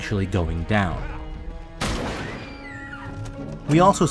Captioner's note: gunshot; screaming